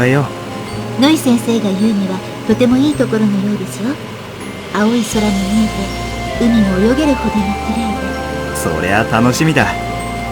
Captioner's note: rain